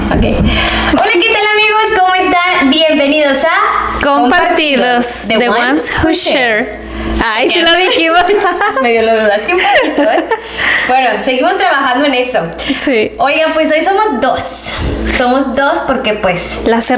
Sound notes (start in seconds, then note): 7.5 laughs